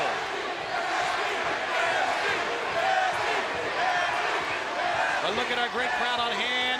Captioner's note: crowd cheering